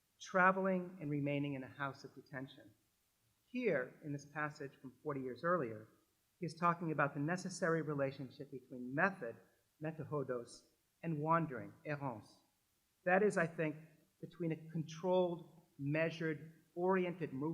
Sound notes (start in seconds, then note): 9.6 french